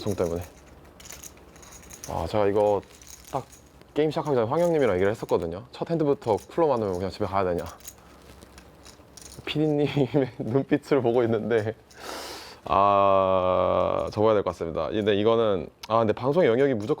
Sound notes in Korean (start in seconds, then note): 9.9 웃음; 12.0 콧방귀